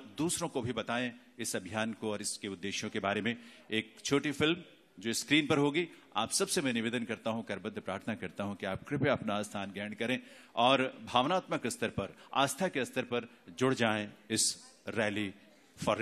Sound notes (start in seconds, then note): 4.9 speaks in Hindi – not transcribed